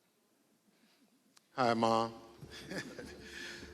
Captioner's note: chuckles